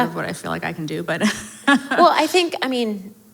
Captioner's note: laughs